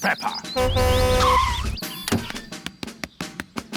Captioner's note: honks and brakes